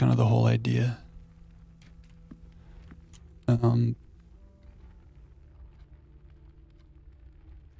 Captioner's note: footsteps